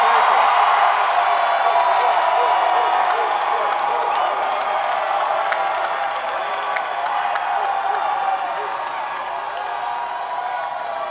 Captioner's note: cheering